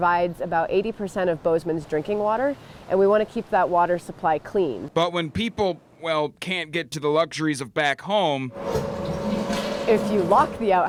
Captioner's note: nat -- flush